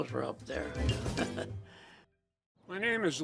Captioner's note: chuckling